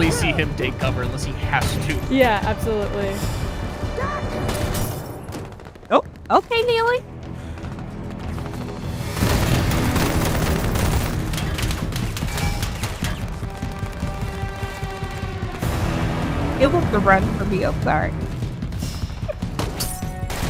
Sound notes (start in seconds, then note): 9.0 gunfire clacking; 14.1 tense music; 20.2 glass shatters